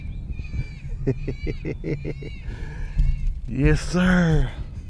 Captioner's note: man chuckles